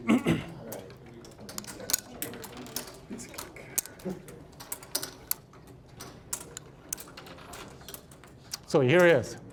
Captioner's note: puzzle pieces clattering